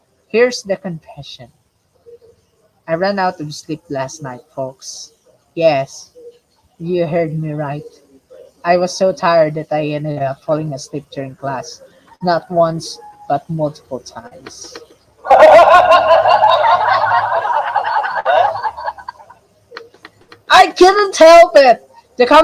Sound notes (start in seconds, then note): 15.2 audience laughter